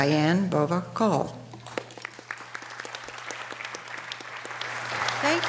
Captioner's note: audience applause